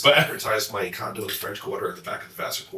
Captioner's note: chuckles